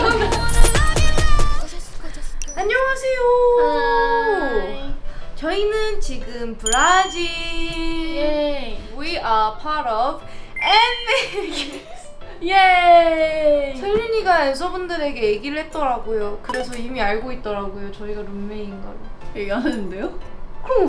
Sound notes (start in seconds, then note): 11.1 failing to hold back laughter